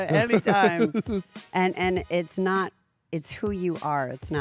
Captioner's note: laugh